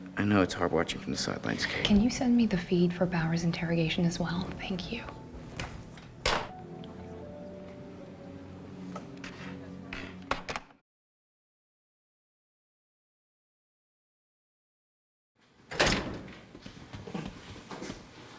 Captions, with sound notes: I know it's hard watching from the sidelines, Kate-- Can you send me the feed for Bauer's interrogation as well? Thank you. [Door opened]